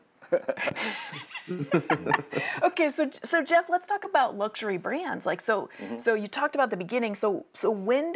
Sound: laughs

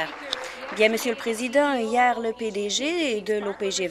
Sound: applause

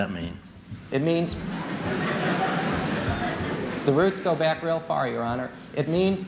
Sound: laughter

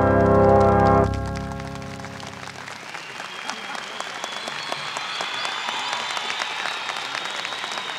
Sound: applause continues

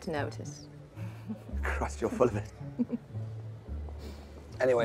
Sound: Eloise giggling

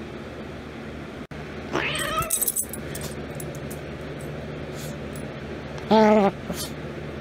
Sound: Ella growls; Caprice meows, growls and yowls

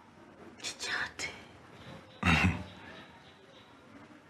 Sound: chuckles

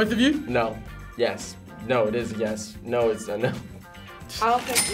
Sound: laughs

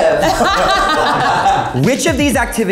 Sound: all laughing

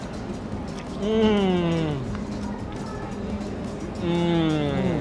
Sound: humming in appreciation

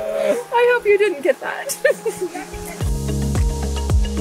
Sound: laugh; laughs; bright relaxing music

